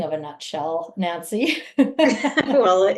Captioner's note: laughs